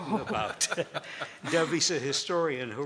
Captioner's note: panelist laughing